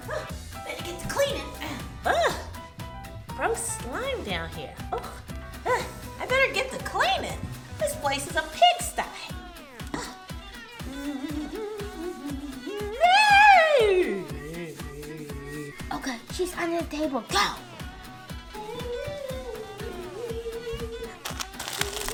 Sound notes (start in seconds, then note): 1.6 gasps; 5.0 gasps; 11.0 hums; 13.2 shrieks; 14.3 groans; 17.9 hums